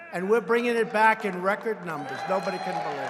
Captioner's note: applause